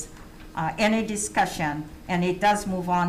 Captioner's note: none